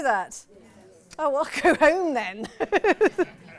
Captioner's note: she laughs